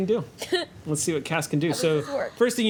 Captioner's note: laughs